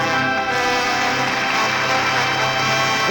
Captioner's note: applause